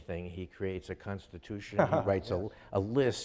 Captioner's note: laughing